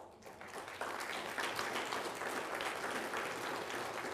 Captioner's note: people applauding